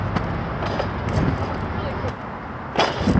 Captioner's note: pole rattling